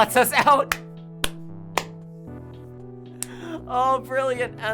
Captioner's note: clapping and laughing